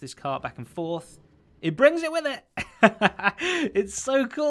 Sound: chuckles

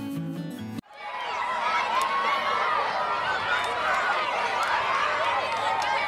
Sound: children chattering

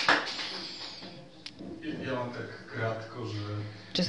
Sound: non-english

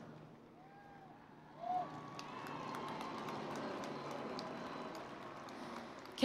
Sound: cheering and Applause

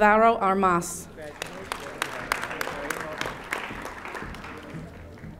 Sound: audience applauding

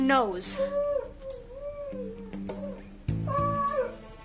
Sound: dog whimpering

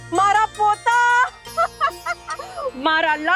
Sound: laughing

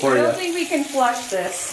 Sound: water running

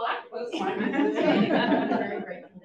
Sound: audience laughs

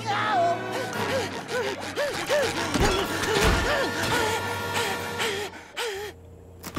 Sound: panting, screaming; panting

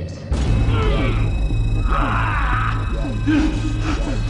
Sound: beeping; intense warbling; pained groaning

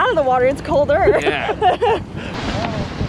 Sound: chuckles; waves gently swishing; wind gently howling

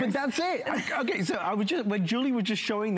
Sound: laughter

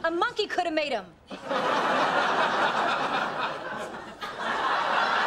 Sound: audience laughter

